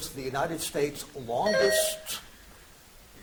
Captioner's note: buzzer chimes